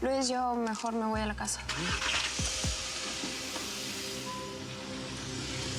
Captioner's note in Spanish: encendido de motor